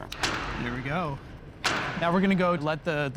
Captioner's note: lock clicks